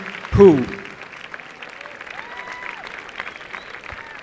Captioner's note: applause